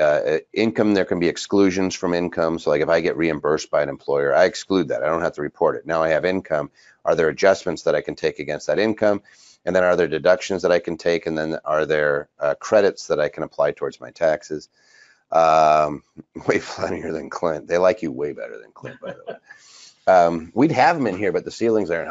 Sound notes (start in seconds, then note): 16.7 laughs; 18.8 laughs